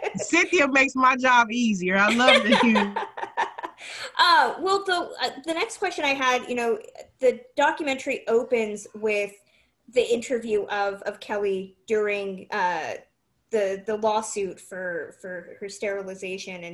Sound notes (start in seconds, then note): 1.9 laughs